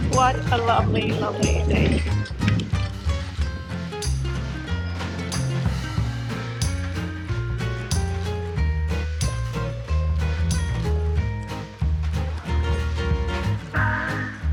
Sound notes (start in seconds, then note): 2.0 bicycle tires riding on road; 3.0 upbeat music